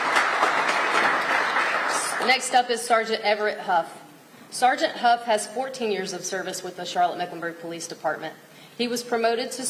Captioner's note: applause